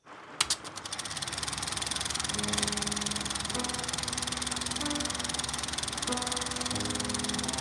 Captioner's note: projector reels spinning